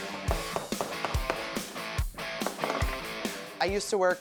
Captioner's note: upbeat music; hammer thudding